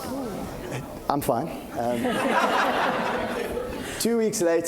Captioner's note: laughing